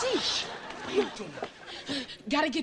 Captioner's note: audience laughing